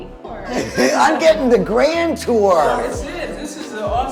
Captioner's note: laughs